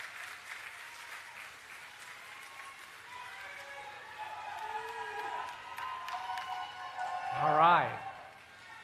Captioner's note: applause and Cheering